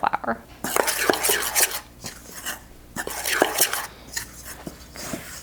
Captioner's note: spoon scrapes